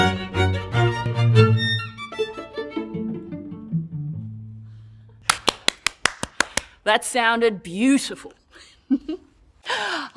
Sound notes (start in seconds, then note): 5.2 clapping